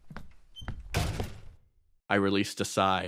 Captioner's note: footsteps walking away; door slams shut